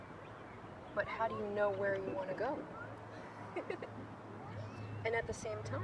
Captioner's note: giggles